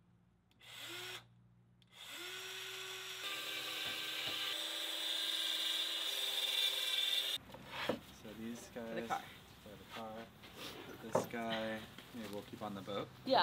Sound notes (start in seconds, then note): 1.8 drilling